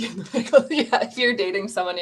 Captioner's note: laughter